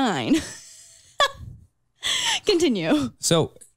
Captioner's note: chuckles